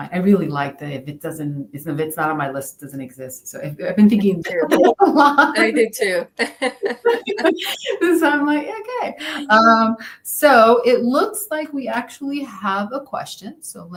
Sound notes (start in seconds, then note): 4.4 laughs; 6.3 laughter